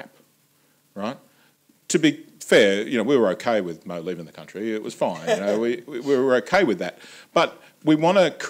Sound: laughter

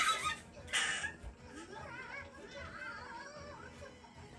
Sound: laughing

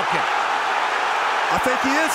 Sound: crowd roaring

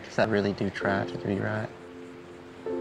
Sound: none

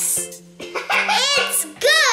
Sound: laughing

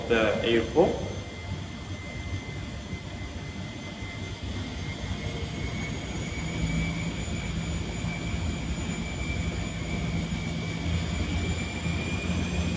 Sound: noise of the Wind Tunnel in operation

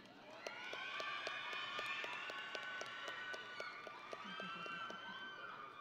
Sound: audience and graduates cheering

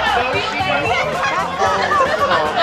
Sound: laughter

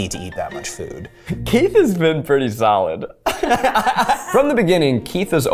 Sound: laughing

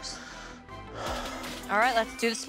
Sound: sigh

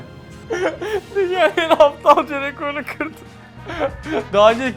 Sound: tears

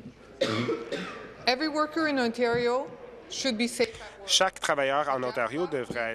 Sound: speaking in French

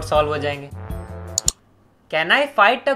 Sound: the ominous click

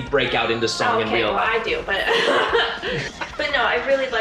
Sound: laughs

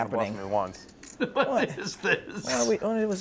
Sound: laughing

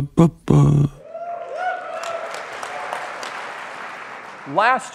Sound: applause

